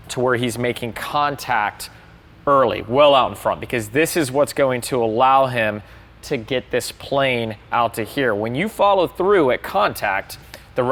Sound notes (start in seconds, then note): none